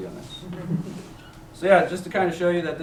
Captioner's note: chuckles